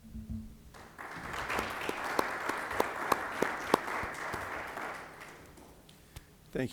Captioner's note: applause